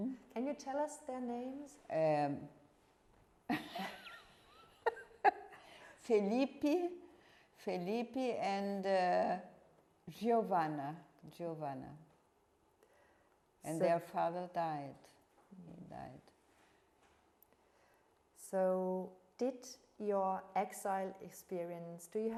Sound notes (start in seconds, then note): 4.7 laughing